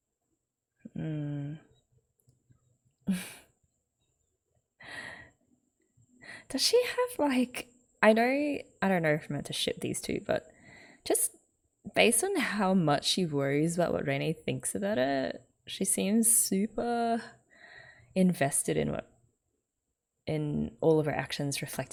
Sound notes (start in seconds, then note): 3.1 chuckles